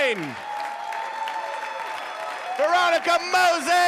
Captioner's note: audience applauding